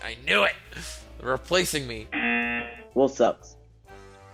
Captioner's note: buzzer